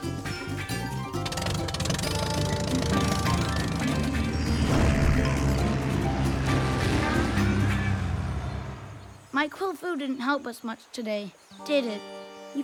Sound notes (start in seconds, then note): 2.6 plane rumbles